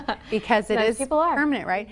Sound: laughs

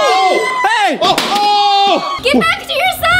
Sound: screaming; plastic smacking on the ground

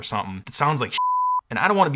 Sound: beep

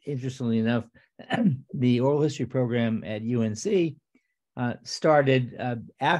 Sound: clears throat

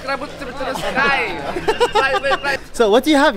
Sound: but keeps making funny sounds

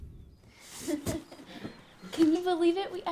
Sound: laughing

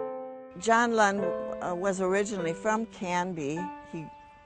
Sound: voiceover

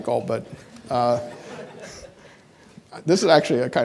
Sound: audience laughing

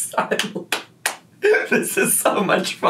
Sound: laughs softly

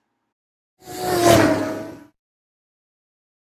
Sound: car sounds

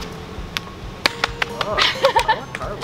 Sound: applause; laughs

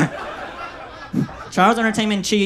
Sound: audience laughs

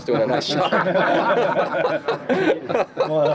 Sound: laughter

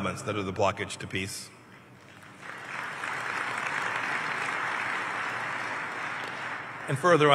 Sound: applause

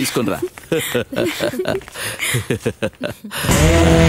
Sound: happy.....Laughing

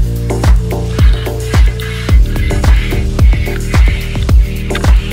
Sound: tool scraping

